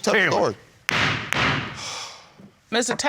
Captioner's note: gavel banging